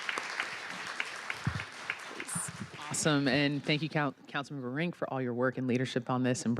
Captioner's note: applause